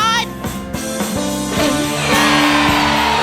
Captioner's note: louder